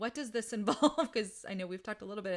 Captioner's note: laughs